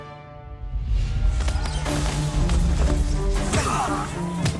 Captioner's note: action music; men shouting